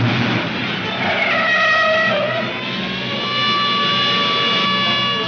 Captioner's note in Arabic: اصرير الاطارات